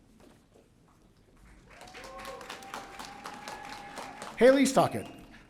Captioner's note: audience cheering